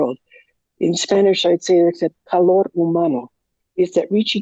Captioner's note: speaking in Spanish